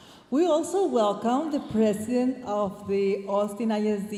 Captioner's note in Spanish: hablando en inglés